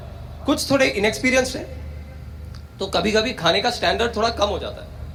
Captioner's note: none